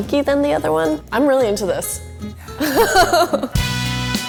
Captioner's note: laughs; jazzy music